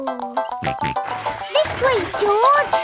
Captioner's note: george snorts